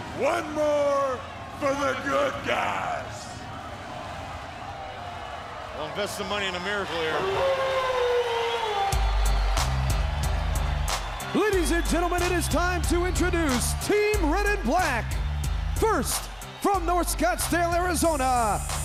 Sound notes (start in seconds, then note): 6.9 crowd chatter; 13.4 crowd cheering